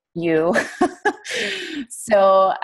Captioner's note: laughs